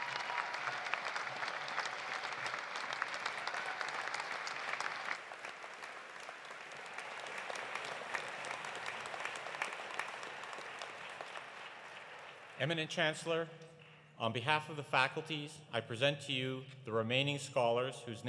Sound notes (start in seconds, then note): 0.0 applause continues; 0.0 cheering continues; 3.9 applause continues; 3.9 cheering continues; 11.7 applause continues